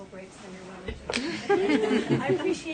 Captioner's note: laughter